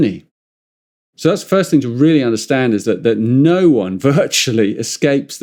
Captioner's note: chuckles